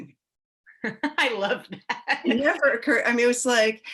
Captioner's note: laughs